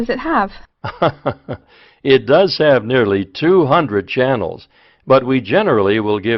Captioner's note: laughs